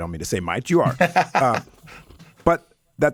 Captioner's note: Dean laughs